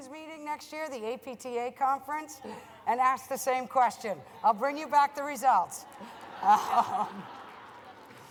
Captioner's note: laughter